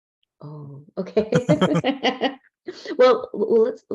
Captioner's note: laughs